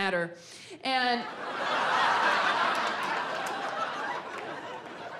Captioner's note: audience laughs